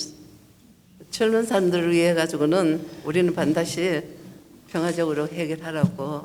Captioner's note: speaking foreign language